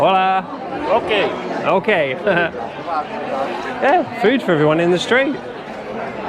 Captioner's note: laughter